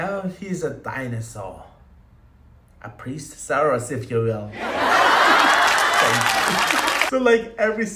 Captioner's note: applause